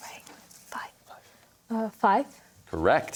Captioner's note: whispers